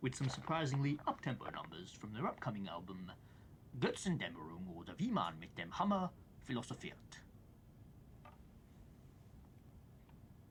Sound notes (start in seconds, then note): 3.6 speaks in foreign language